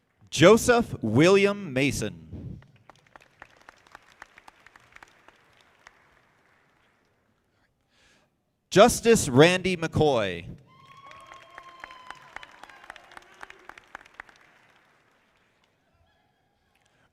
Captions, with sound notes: Joseph William Mason. (audience clapping) Justice Randy McCoy. (audience applauding)